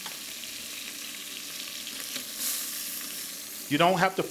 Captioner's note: chicken sizzles